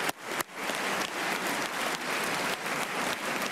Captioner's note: applause